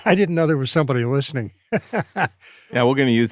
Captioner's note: laughter